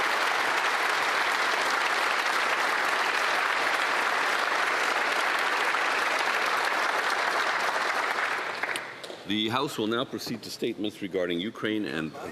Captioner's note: applause